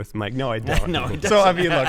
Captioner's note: laughter